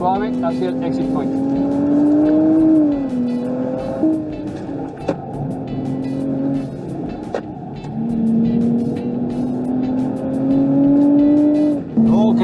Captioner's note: engine roaring